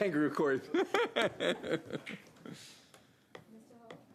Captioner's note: laughter